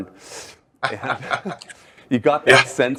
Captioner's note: chuckles